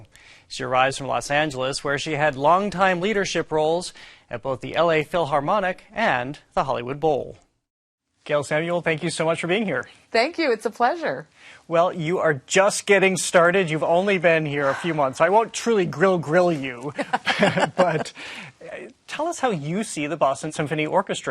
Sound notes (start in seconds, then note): 16.9 laughing